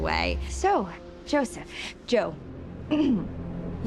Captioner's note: clears throat